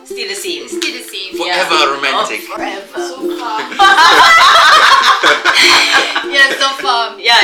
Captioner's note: laugh